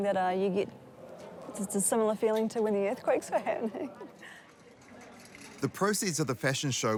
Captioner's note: chuckles